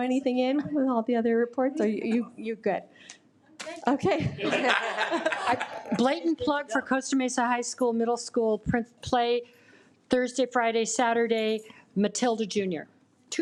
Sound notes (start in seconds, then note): 4.4 audience laughing